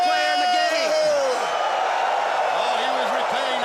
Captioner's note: crowd cheering